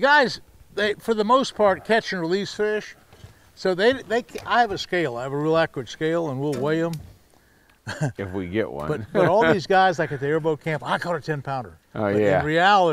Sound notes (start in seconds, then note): 7.8 chuckling